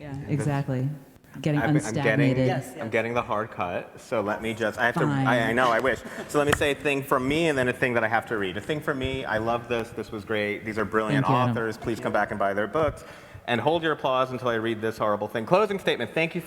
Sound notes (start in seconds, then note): 5.4 everybody laughs; 6.9 claps